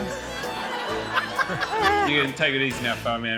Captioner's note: laughter